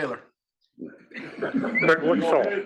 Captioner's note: laugh